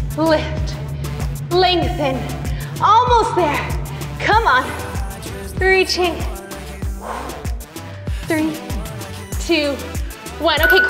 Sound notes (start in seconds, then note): 7.0 huffs air out